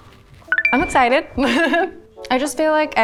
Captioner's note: laughs